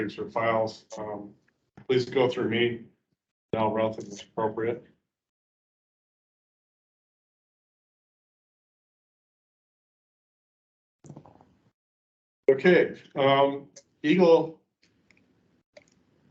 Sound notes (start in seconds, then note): none